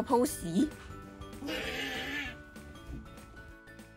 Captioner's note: my sister's strange roar